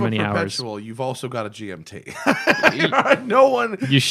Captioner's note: laughter